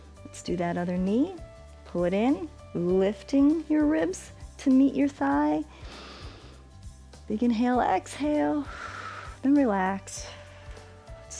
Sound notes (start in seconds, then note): 6.1 inhales; 8.6 exhale